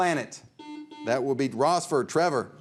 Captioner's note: buzzer beeps